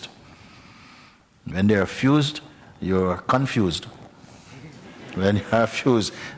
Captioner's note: laughter